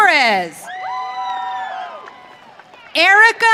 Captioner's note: audience cheering